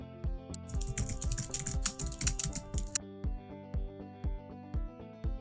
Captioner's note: keyboard clicking